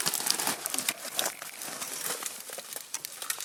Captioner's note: elk calf cries out